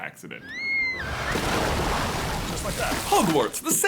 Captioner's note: wailing and water splashing